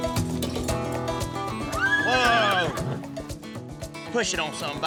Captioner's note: horse neighing